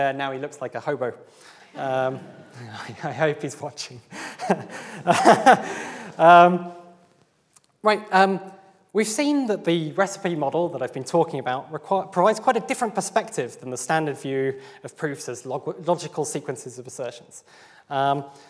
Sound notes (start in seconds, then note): 2.2 audience laughs; 4.2 he laughs